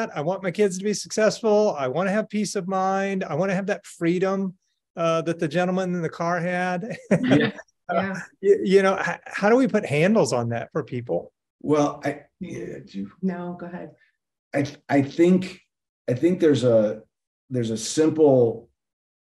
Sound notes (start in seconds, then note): 6.8 laughing